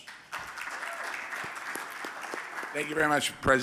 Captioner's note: audience applauding